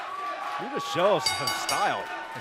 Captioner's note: bell ringing